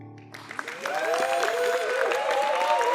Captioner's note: applause; cheering